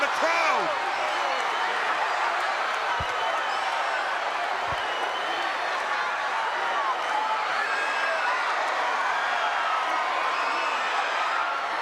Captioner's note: crowd chatter